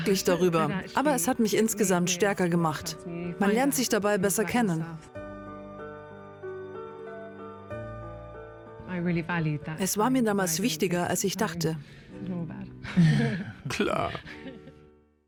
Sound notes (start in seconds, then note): 5.2 solemn music; 12.9 laughing